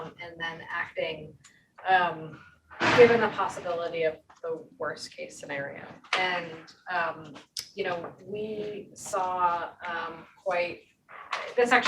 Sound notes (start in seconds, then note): 2.7 object crashing